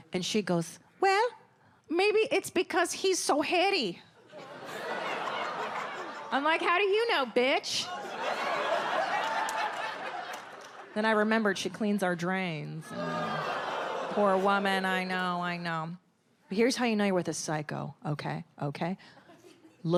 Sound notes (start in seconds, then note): 7.8 audience laughs; 12.8 audience groans